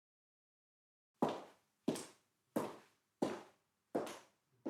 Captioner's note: footsteps tapping